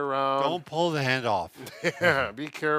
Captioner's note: chuckles